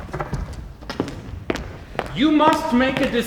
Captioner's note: footsteps entering